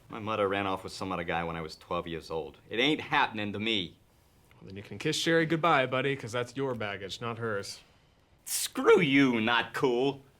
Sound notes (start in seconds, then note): none